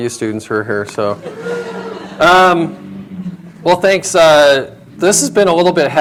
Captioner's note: laughter